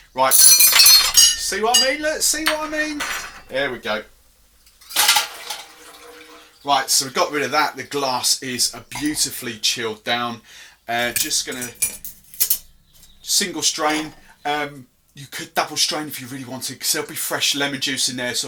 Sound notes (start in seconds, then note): 0.3 utensil clattering; 4.8 ice clattering